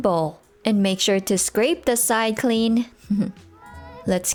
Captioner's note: soft chuckle